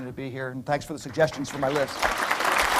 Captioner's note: applause